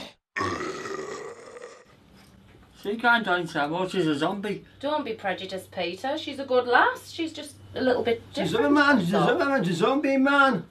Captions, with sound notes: (GROWLS & GURGLES) She can't join SYMO, she's a Zombie! Don't be prejudiced Peter, she's a good lass she's just a little bit different that's all - She's a Zombie man! She's a Zombie!